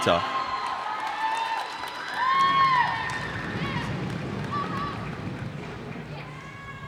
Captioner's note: cheers and applause